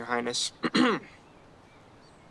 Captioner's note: clears throat